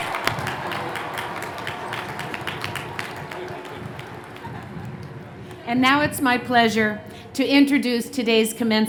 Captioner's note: cheers and Applause